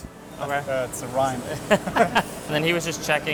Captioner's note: both laughing